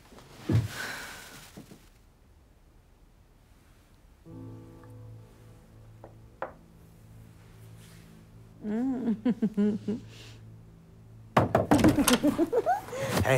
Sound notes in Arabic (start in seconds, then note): 8.6 يضحك; 11.3 يطرق